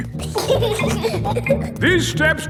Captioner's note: giggling